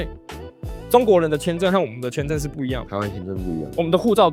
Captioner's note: Taiwanese